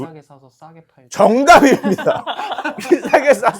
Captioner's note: laughter